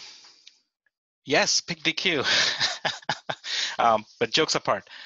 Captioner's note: laughs